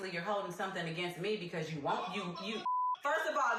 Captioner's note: beep